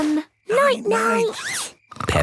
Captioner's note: snores